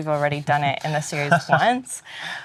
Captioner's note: laughs